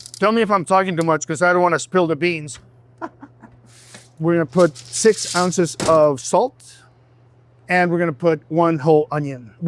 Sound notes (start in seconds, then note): 3.0 laughs